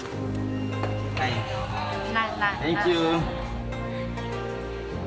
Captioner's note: speaking Chinese